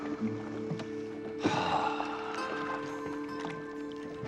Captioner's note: sighing